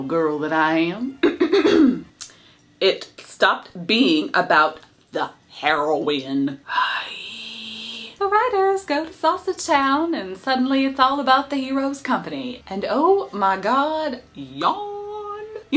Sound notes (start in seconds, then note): 1.4 clears throat; 6.8 sighs